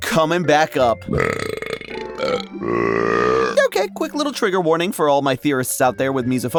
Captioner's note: upbeat music; burps